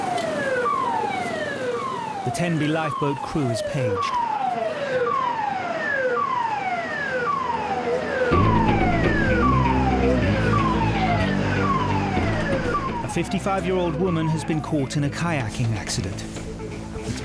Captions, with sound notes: (waves lapping) (alarm blaring) The Tenby lifeboat crew is paged. (alarm blaring) (dramatic music) (alarm blaring) A 55-year-old woman has been caught in a kayaking accident.